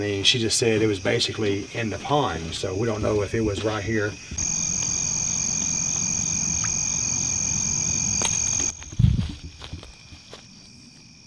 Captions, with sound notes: I mean, she just said it was basically in the pond. So we don't know if it was right here. (crickets chirping) (water splashing)